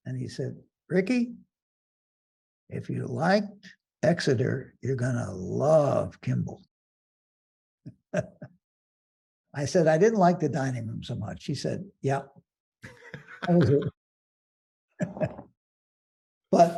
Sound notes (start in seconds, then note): 8.1 laughing; 15.6 laughing